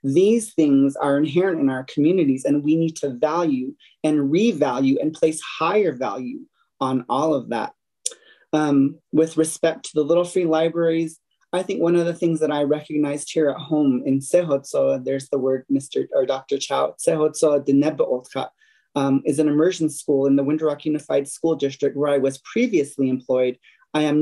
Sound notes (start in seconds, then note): 18.5 foreign language